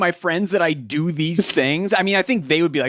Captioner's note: chuckles